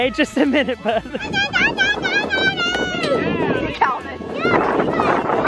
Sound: children yell; wind blowing

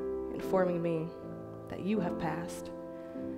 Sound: none

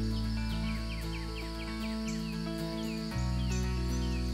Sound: birds chirping

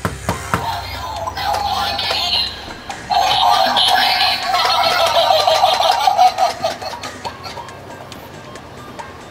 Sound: creepy Sounds

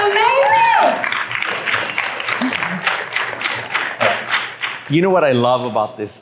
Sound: applause

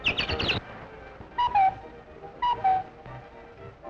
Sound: skates clank; bird chirps

